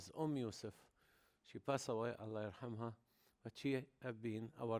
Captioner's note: speaking foreign language